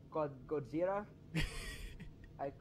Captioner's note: wheezes